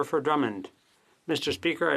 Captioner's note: speaking French